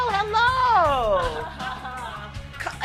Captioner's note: laughter